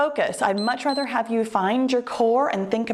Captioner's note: timer beeps